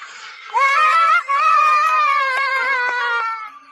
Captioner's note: cheering sounds